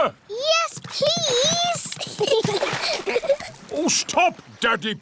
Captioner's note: giggles